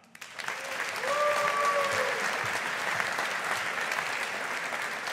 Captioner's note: audience applauding